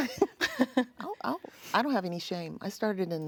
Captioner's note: both chuckling